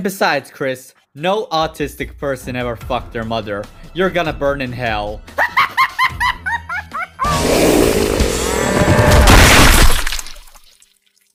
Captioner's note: laughs like a maniac like the Joker